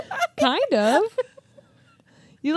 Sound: chuckles

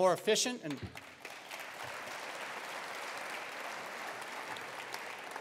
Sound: attendees applauding

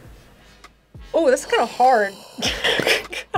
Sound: sighs; laughs

